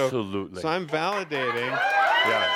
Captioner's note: lots of audience applause